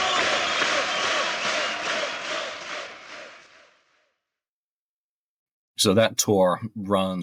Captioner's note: applause